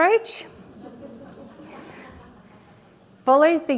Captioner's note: audience laughing